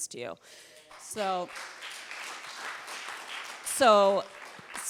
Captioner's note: audience applauding